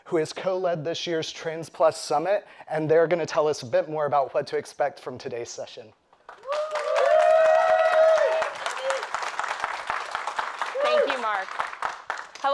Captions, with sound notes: who has co-led this year's Trans+ Summit, and they are gonna tell us a bit more about what to expect from today's session. (audience cheers and applauds) - Thank you, Mark.